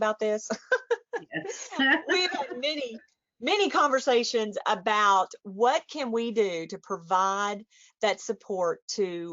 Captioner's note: chuckles